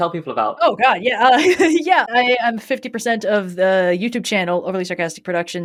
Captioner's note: laughs